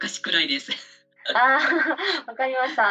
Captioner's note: laughs